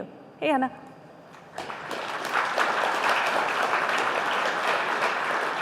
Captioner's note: applause